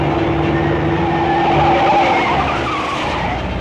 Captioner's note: tires screeching